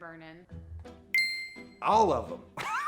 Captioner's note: ding